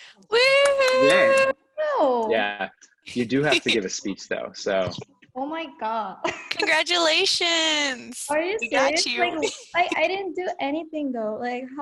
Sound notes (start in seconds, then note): 0.3 cheering; 6.0 laughs